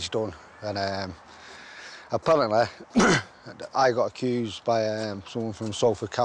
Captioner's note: clears throat